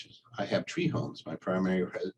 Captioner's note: chuckles